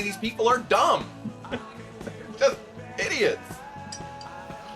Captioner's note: laughs